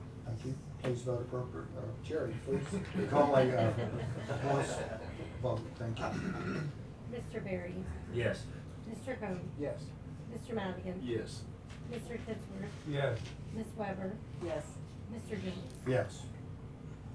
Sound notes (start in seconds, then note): 2.5 laughter